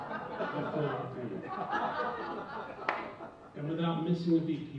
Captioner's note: audience laughing